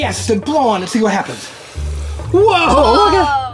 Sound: blowing

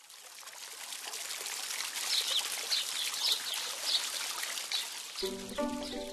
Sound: water trickling; birds chirping; gentle music

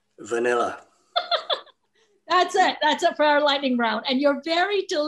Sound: laughs

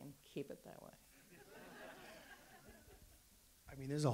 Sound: audience laughs

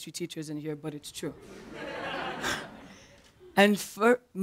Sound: laugher

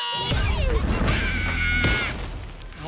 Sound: screaming

